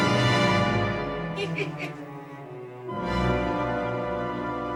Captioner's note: althea laughing